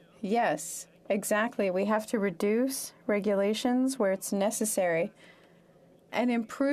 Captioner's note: speaking French